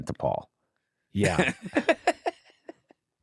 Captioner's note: laughter